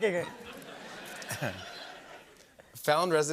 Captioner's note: laughter